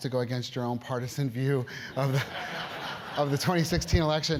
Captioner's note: laugh